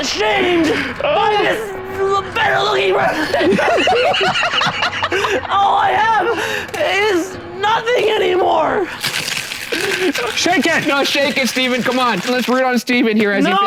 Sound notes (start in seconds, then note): 0.8 all laugh; 9.0 violently shaking mixer